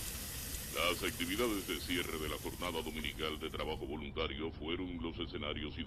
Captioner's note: radio